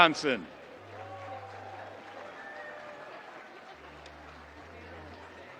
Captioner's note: audience applauding